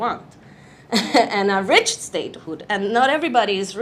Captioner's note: chuckles